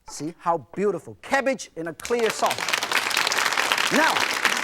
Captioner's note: crowd applauds